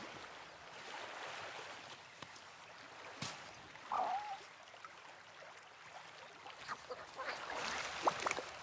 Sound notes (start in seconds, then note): 1.0 water gurgling